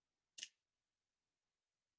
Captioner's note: snap